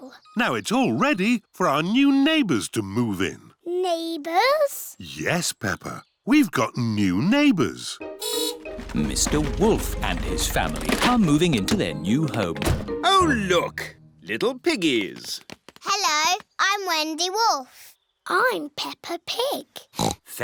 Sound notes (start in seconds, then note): 7.6 horn beeps; 19.9 oinks